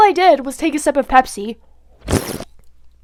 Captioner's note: sip